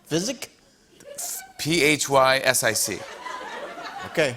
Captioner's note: laughter